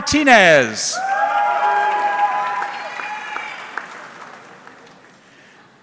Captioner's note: audience cheering